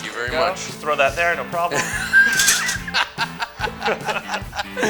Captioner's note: laughter